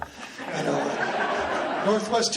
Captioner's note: laughing